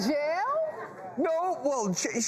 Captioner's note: crowd murmurs